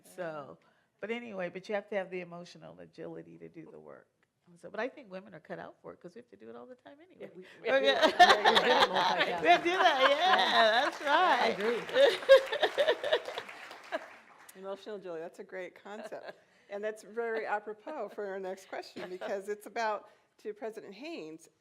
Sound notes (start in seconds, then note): 7.9 laughter and Applause